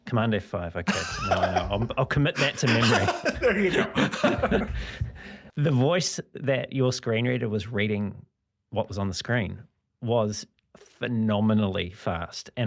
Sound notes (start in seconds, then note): 4.9 laughs